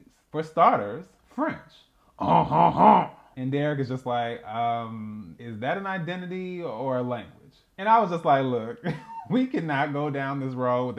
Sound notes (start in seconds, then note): 2.2 exaggerated French Laughter